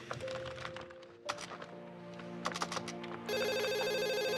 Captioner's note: gentle music; keyboard keys clacking; telephone ringing